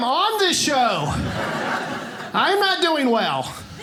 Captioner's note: audience laughing